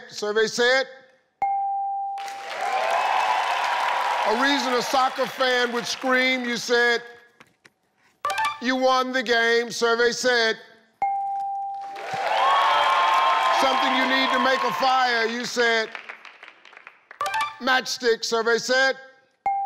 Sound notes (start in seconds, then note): 1.4 tone dinging; 2.2 audience clapping and cheering; 11.0 tone dinging; 11.8 audience clapping and cheering